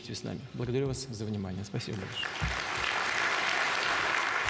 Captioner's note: applause